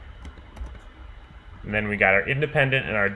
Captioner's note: keyboard clicking